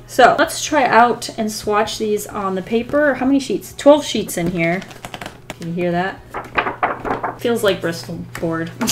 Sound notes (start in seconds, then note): 6.2 paper wobble